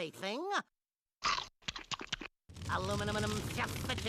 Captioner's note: chomping